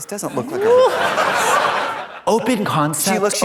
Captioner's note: audience laughs